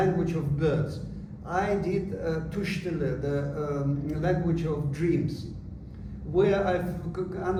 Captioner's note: non-english